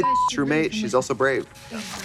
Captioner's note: beep